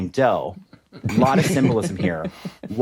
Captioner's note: both chuckle